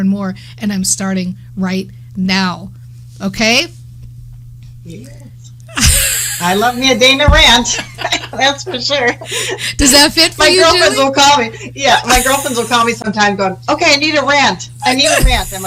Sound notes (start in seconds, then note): 5.7 both laughing